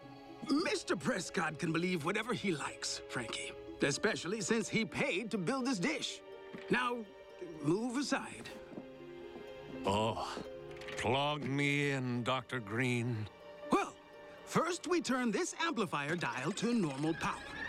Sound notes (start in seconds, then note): 9.8 sighing